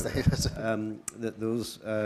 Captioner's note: mumbles